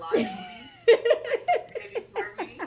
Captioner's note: laughs